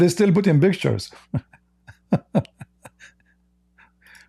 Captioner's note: Ketawa